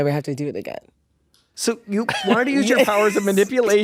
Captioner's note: laughs